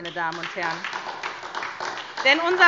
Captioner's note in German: Beifall SPD